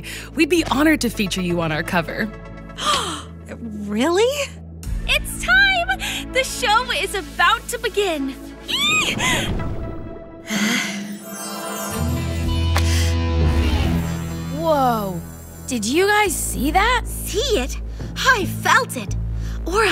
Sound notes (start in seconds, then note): 4.4 gasps; 13.5 intense music